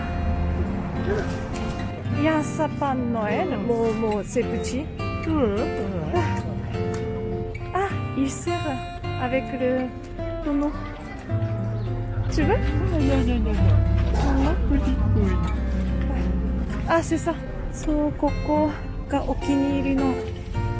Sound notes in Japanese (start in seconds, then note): 5.3 あくびしながら